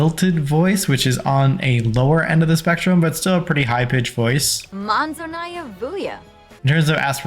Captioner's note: Sim talking